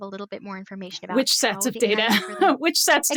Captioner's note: laughs